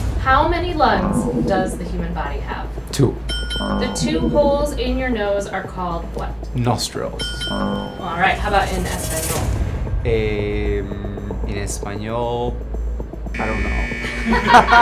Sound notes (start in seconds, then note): 3.3 high pitched buzzer dings; 7.2 high pitched buzzer dings; 8.3 dramatic drum roll; 13.3 wrong answer buzzer buzzes; 14.0 both laugh